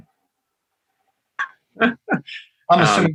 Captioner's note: laughs